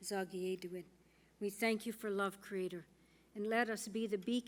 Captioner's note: speaking Indigenous